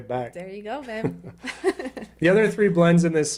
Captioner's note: chuckles